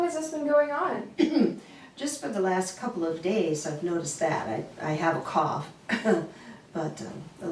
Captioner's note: cough